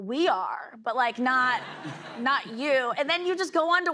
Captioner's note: laughter